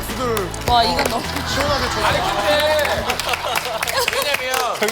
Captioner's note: clap clap